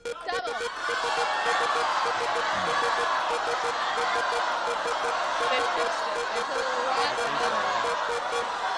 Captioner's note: applause